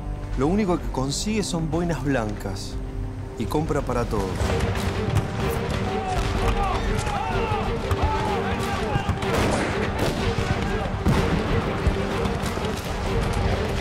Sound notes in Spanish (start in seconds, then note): 5.8 Explosiones, disparos, gritos